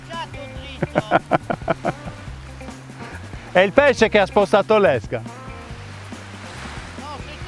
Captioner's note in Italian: Risate